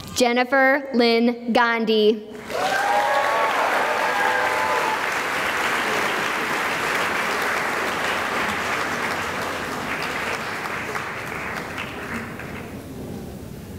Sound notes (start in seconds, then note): 2.4 cheering and applause